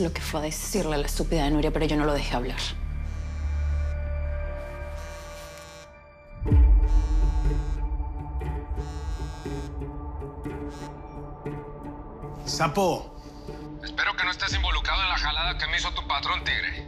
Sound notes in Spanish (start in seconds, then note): 6.4 Suena el celular